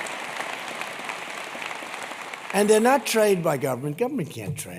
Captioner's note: applause